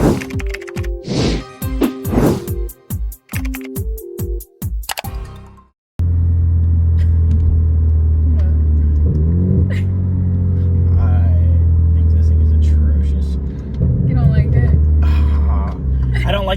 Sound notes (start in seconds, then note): 0.0 keyboard keys tapping; 4.9 mouse clicking; 7.2 laughing; 9.7 laughing